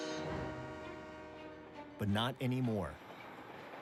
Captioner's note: train whistle blows